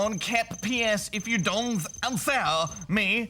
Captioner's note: laughs